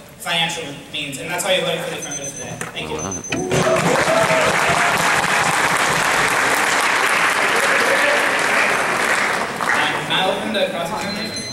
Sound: applauses

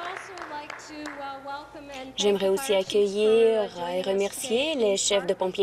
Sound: applause

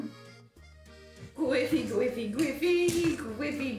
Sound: singsong

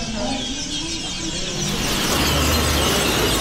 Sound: birds chirping

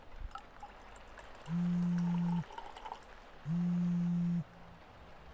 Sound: phone buzzes

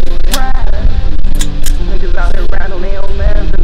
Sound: gun cocking

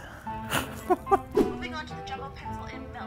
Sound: laughs

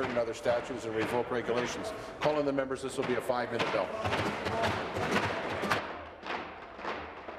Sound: tapping of desks

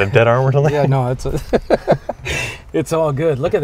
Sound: laughs

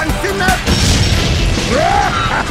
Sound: kaboom

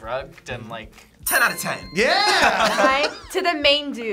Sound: laughs

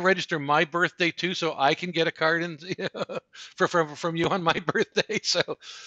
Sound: laughs

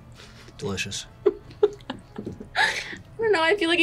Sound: laughs

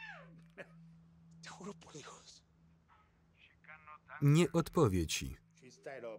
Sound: screaming; speaking foreign language

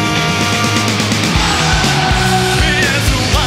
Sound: crowd

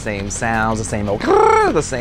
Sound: trills

